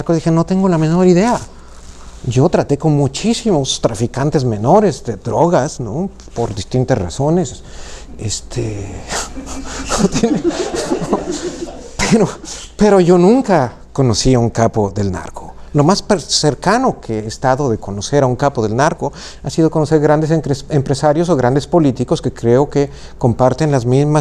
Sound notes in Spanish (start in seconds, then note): 9.1 risas